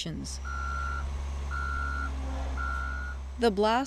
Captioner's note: truck engine revving